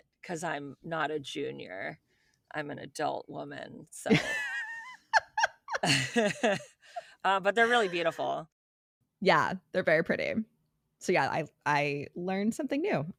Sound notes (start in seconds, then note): 7.6 laughing